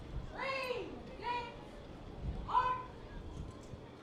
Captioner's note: commander shouting